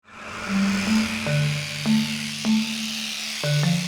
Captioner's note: razor buzzing